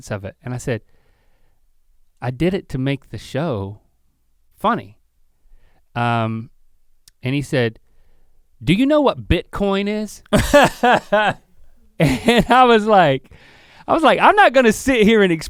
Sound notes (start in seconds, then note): 10.3 laughs